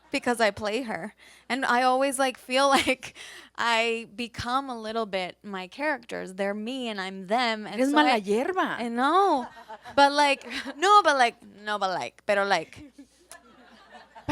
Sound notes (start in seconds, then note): 8.2 speak Spanish; 9.3 panelists laugh